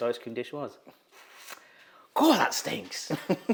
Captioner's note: lips smack; laughs